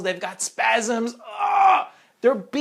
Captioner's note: groaning